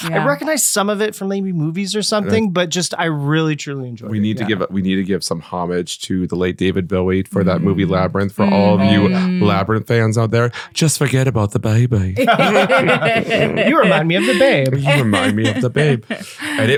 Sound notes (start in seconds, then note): 10.1 imitating Bowie as Jarth; 12.2 laughing